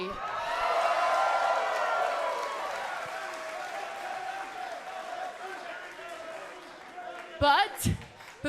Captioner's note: cheers and applause